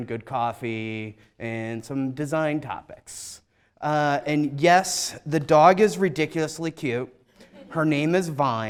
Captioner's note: laughter